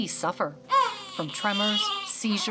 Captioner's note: baby cries